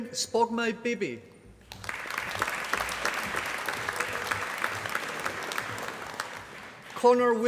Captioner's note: applause